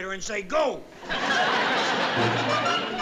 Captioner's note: audience laughing